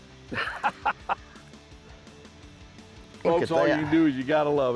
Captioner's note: laughing